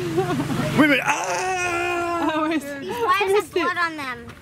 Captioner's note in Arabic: الصراخ